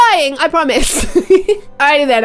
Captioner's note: laughs